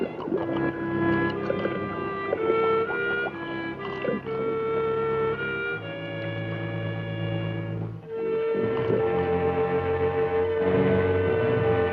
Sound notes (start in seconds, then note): 0.0 gurgling